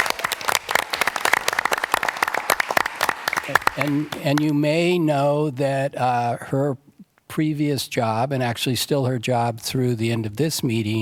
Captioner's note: applause